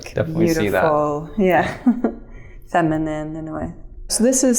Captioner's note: chuckles